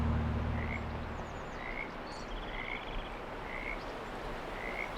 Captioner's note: birds and frogs chirping